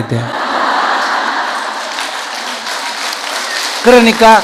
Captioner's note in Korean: 청중 웃음/박수